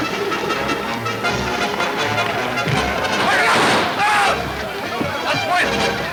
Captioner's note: men yelling simultaneously